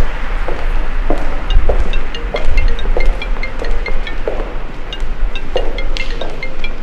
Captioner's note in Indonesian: Dering telepon